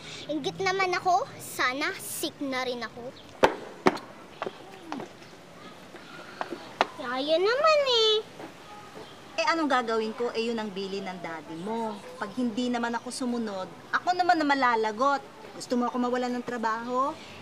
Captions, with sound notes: I'm envious! I wish I was sick, too. -[stomping] -[Ling clicks tongue, hums] Oh, come on, Nanny Ling! What can I do? That's your daddy's order. If I don't follow him, then I'll be the one in trouble. Do you want me to lose a job?